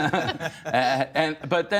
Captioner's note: laughter